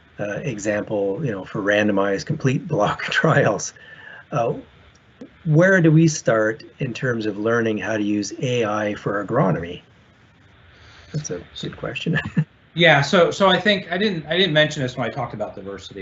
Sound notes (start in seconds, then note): 12.0 chuckles